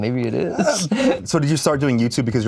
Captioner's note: laughs